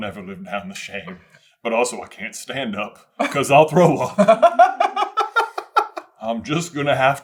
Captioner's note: giggles